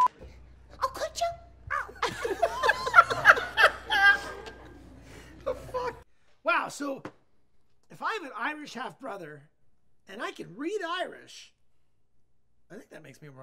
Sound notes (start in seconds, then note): 1.8 laughter